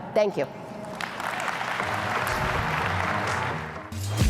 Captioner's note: applause